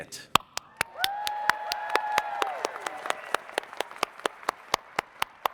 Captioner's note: audience cheers and applauds